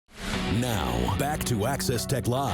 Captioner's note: air whooshing